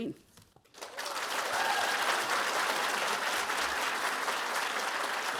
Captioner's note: audience applauding